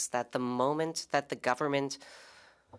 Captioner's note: speaking French